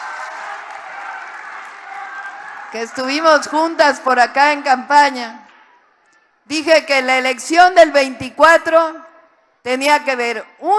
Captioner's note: applause